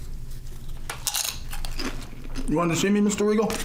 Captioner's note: crunching